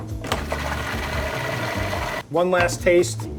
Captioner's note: food processor whirring